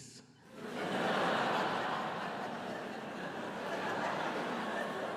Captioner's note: audience laughs